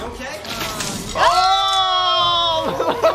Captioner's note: both yelling; doctor laughs